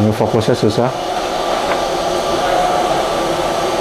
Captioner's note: plastic sound